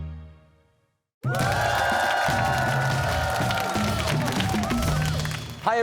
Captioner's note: cheers and applause